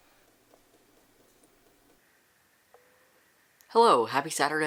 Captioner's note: silence